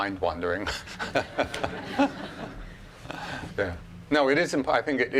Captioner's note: laughing